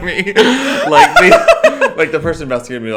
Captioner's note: both laugh